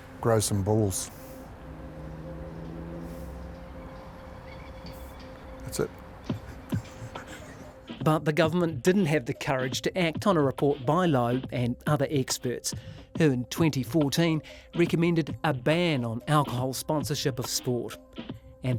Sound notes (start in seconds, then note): 6.3 both chuckle